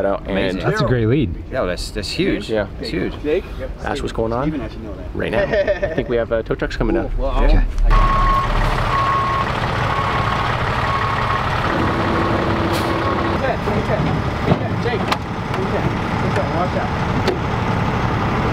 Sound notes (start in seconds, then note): 0.3 male Voice; 7.6 engine rumbles; 7.7 backup horn beeps; 13.9 engine drowns out speaker